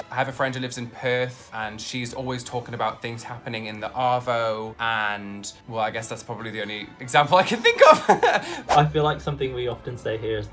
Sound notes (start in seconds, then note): 7.5 laughing